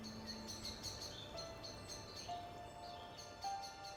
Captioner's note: birds singing